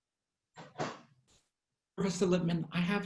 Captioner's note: door banging